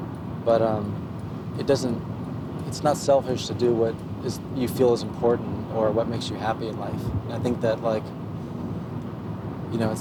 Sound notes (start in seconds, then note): none